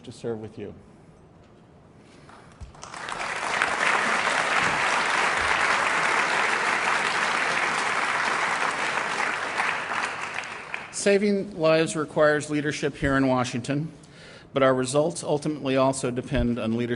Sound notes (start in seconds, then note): 6.0 applause